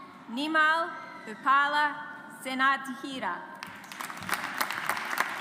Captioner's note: audience applauds